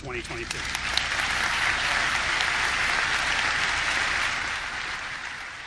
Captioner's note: audience clapping